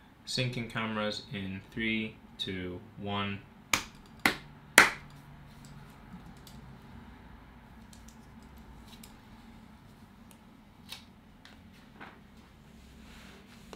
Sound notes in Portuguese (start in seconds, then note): 4.8 Som de mãos batendo palmas